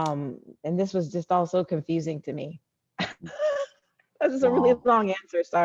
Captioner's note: laughing